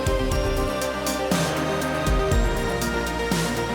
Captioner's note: audience applauding and cheering